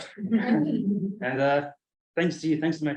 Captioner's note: colleagues chuckle